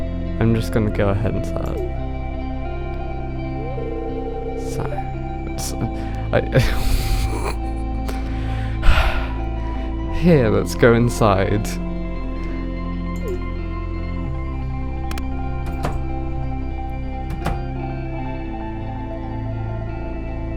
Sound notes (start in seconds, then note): 5.6 tsss; 6.8 exhales and laughs; 8.6 sighs